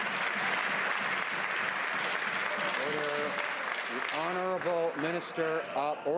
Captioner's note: some Applause